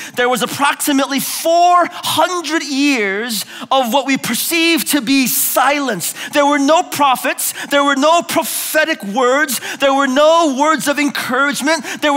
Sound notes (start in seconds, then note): none